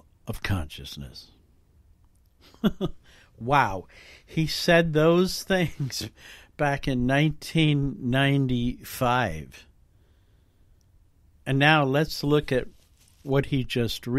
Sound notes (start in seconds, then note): 2.4 light laugh